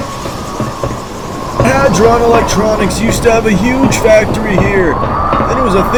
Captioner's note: talking over engines